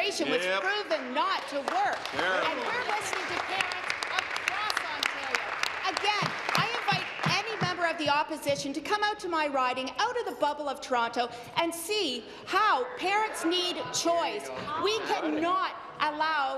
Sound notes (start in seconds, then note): 5.9 applause